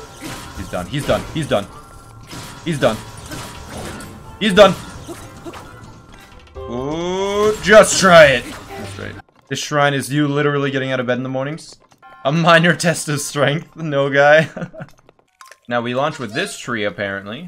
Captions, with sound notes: He's done. He's done. He's done. He's done. He's done! Oooh! Just try it! ..that's right This shrine is you literally getting out of bed in the mornings? A minor test of strength, Noguy? [laugh] Now we launch with this tree apparently